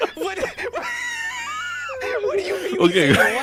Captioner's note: wheeze